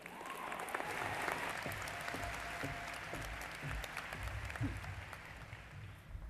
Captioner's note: applause